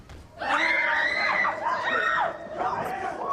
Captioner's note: chuckles; screams